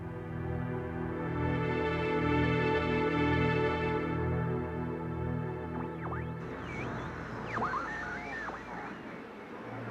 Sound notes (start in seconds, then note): 5.8 berkedip statis